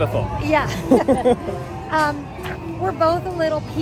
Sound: they chuckle

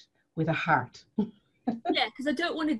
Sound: laughs

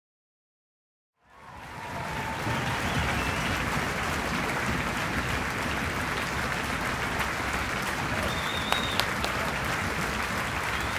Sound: sound of applause

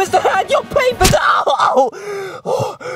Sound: groaning; yells; panting

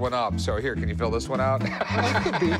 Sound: laughs

